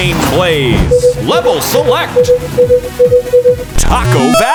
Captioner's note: beeping